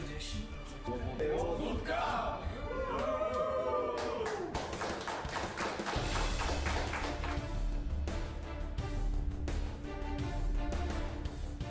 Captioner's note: applause